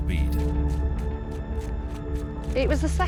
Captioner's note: feet pattering